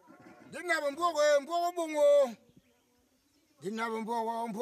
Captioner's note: Bakossi spoken audio